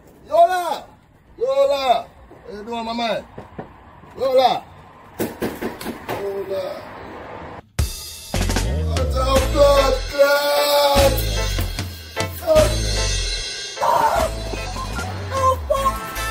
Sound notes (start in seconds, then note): 3.2 knocking on door; 5.2 knocking on door; 7.5 reggae music; 9.4 shouting; 13.8 shouting